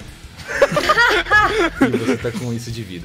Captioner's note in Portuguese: risos